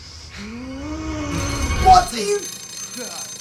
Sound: phone rings

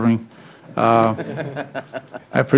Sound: laughter

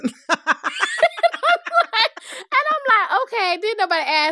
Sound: laughter

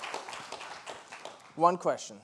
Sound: applause

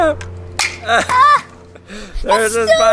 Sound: laughter

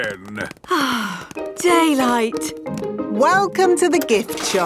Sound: sighs

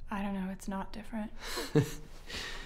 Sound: laughs

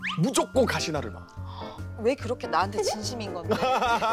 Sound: gasps

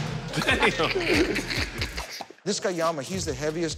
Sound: laughs

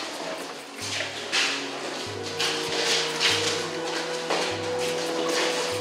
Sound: speaking in foreign language

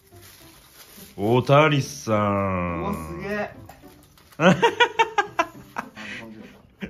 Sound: laughs

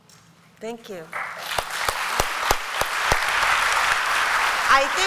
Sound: applause

